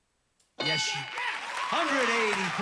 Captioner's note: audience applauding